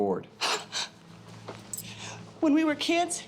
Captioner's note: laughs